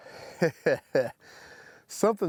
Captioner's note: chuckles